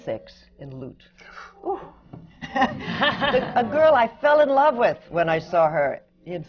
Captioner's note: laughter